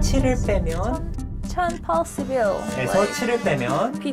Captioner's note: head turning sound effect